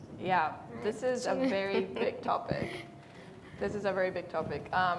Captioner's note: laughing